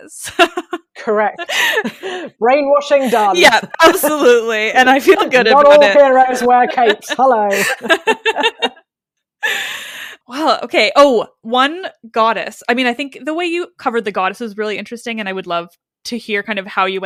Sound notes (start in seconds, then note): 8.1 laughs